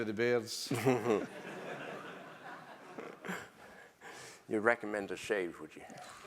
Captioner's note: laugh